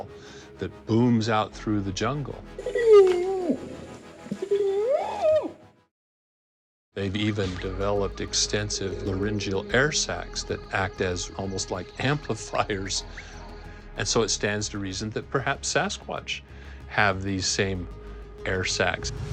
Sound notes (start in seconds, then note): 2.6 howls